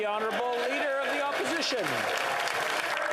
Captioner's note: applause